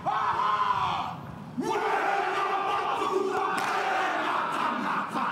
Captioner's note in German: Ein Mann schreit laut